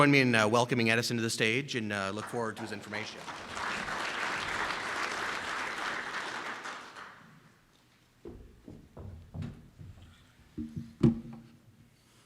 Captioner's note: round of applause from audience